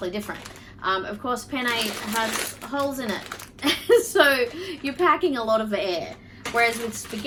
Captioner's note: chuckles